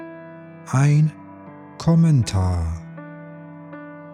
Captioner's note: german